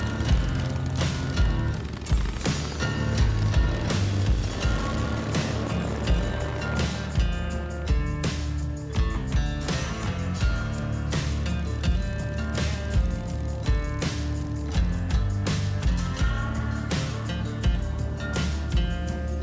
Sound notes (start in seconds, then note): 4.1 engines buzz; 11.4 engine clicks